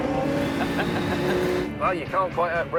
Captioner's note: laughs